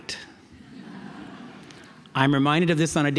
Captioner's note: audience laughs